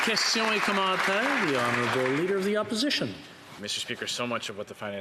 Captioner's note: applause